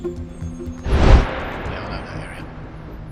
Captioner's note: wind whooshing